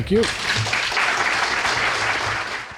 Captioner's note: applause